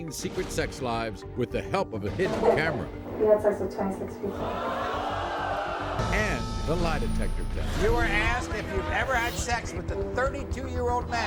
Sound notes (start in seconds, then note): 4.4 audience yelling